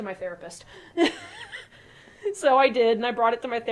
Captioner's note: laughing